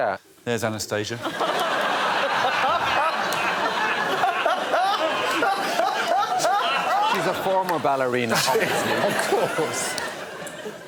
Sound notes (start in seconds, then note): 4.7 laughter